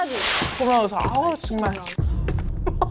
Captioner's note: abnormal footstep sound